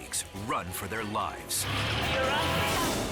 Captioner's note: jeep rumbles